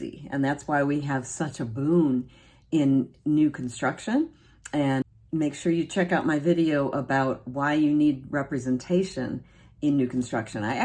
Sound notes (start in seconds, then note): none